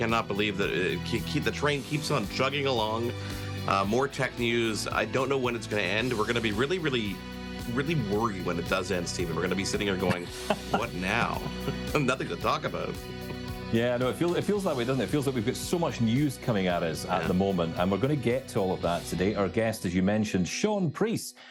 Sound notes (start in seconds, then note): 9.3 chuckles